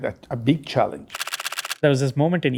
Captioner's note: camera clicking